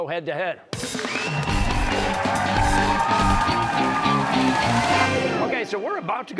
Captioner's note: cheers and applause